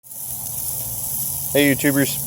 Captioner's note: sizzling